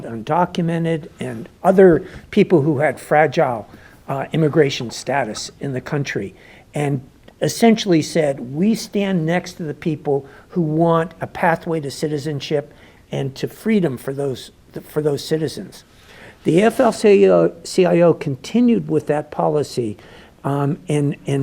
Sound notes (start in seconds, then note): none